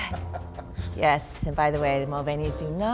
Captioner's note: laughs